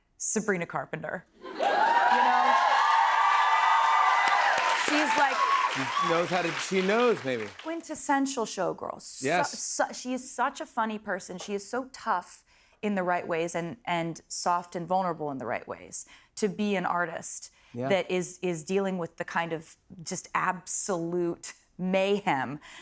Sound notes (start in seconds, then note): 1.5 cheers and applause